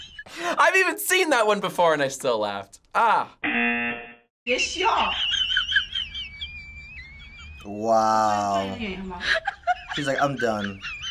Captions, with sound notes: I've even seen that one before and I still laughed, ah. - (cameraman laughing) - Wow, she's like "I'm done."